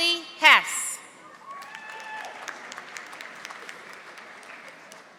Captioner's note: audience applauding